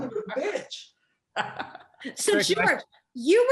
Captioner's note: laughs